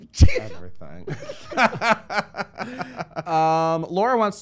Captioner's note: laughter